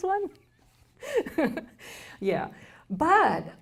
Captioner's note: laughs